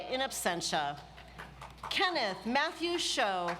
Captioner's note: audience applauds